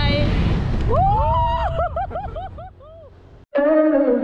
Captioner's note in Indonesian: Screaming